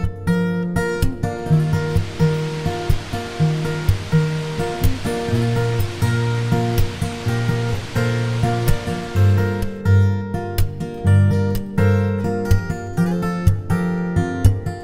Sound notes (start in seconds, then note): 1.4 water falls down; 9.9 relaxing music continues